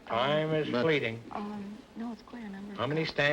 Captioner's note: whispering